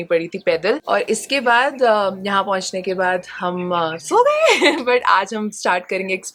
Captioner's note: chuckles